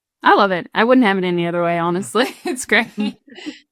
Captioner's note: chuckles